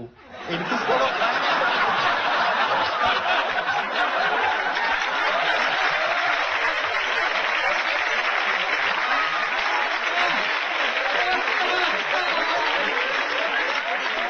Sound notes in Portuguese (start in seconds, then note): 2.2 plateia ri e aplaude